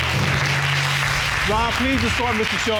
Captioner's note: audience applauding